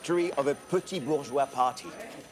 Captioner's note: speaking foreign language